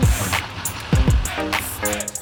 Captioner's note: water splashing